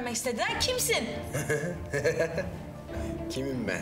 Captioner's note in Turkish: Gülüyor